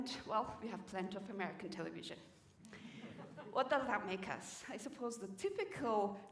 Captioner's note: laughter